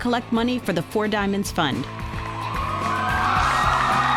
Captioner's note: cheering